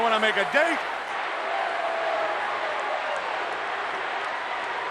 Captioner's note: crowd yelling